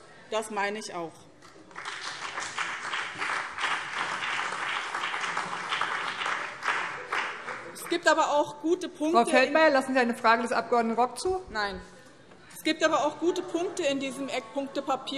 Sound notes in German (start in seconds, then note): 1.5 Beifall BÜNDNIS 90/DIE GRÜNEN